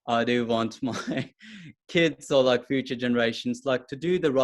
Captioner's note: chuckles